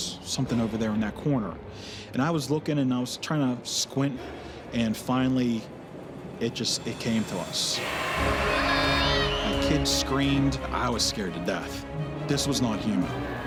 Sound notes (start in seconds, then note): 7.6 screaming